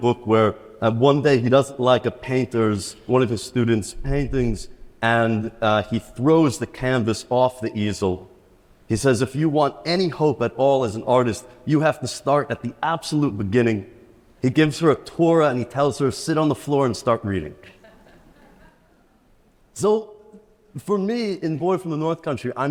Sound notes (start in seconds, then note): 17.6 attendees laughs